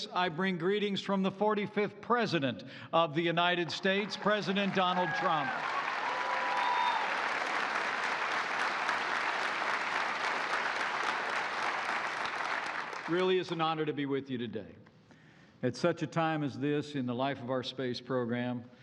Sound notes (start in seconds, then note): 6.3 applause